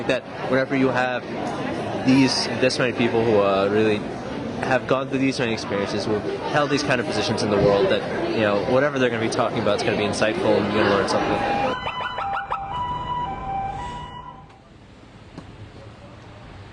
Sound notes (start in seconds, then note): 11.0 sirens